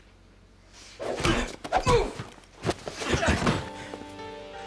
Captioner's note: fists thudding